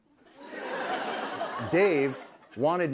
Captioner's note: laughter